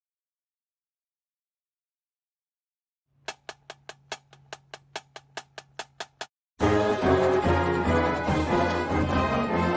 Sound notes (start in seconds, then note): 3.4 metronome ticking; 6.6 triumphant music